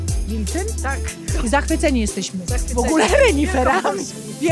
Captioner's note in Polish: śmiech